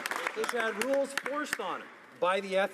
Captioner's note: some Applause